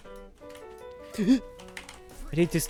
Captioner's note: gasp